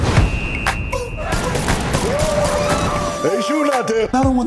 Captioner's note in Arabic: أعيرة نارية